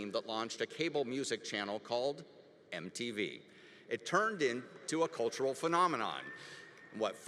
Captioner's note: none